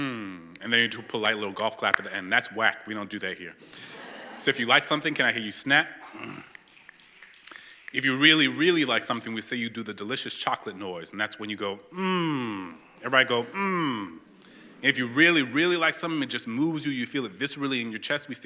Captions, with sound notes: And then you do a polite little golf clap at the end. That's whack. We don't do that here. So if you like something, can I hear you snap? [SNAPPING] If you really, really like something, we say you do the delicious chocolate noise. And that's when you go mmmmm. Everybody go, mmmm. And if you really, really like something, it just moves you, you feel it viscerally in your chest,